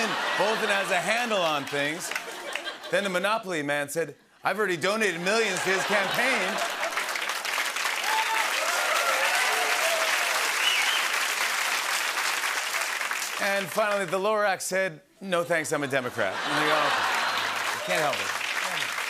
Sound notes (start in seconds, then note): 0.2 laughter; 5.2 cheers and applause; 16.1 laughter